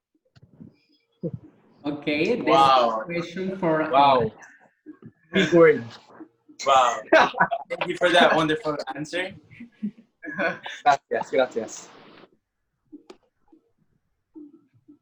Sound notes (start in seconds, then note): 11.5 in Spanish